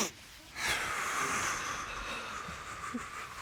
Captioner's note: exhales deeply